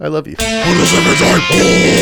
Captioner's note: demonic Voice